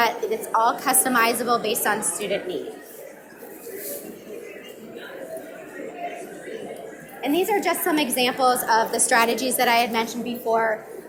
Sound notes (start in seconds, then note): 2.6 audience mumbling